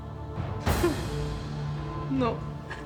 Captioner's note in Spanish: Sollozos